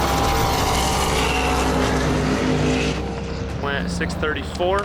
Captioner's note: car engine revving